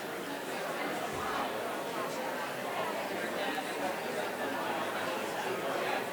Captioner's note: people quietly speaking